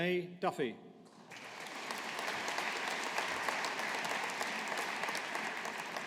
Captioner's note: audience applauding